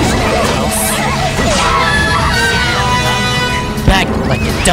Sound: KO Scream

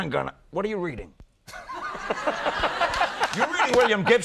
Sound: crowd laughs

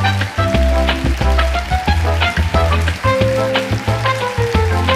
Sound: audience applause

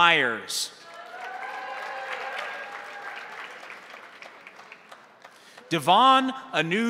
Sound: crowd cheering; crowd applauding

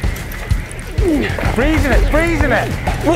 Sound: grunting

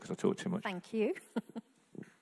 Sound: laughing

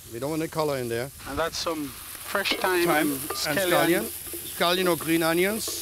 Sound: banging sound

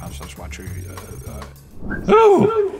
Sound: stammers; exhales

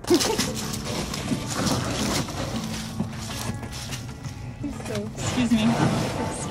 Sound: background music; noise of ice cubes shifting

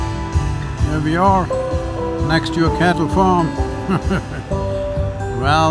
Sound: laughs

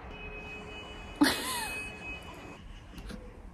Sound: laughing

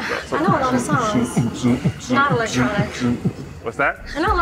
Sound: beatboxing

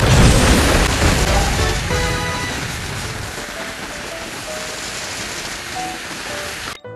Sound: rain

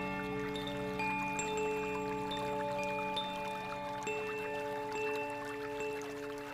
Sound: bells lightly chiming; water babbling

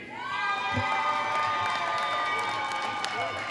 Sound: applause

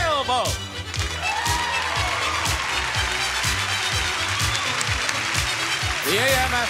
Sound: audience applauding

